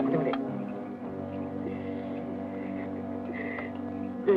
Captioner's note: soldiers speak Japanese